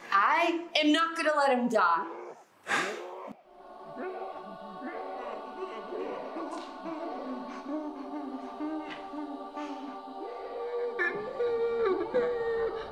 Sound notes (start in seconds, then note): 3.3 gasping howls